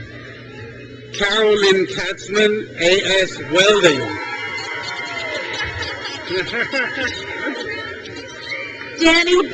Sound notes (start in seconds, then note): 4.0 trustees laugh; 6.2 crowd cheers